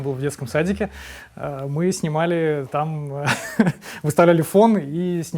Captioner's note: laughs